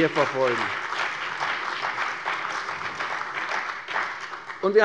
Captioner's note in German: Beifall bei der CDU und dem BÜNDNIS 90/DIE GRÜNEN